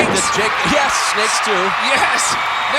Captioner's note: audience cheering